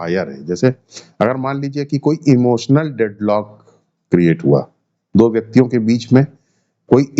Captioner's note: nasal sound